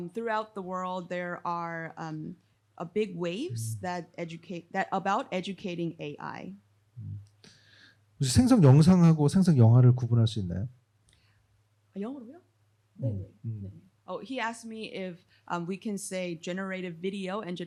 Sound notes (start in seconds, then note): 8.5 speaking korean